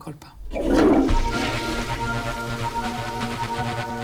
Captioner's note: speaking Italian; toilet flushes